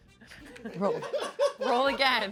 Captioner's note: and crew laugh